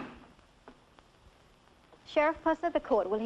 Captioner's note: gavel banging